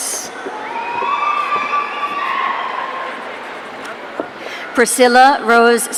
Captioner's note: audience cheering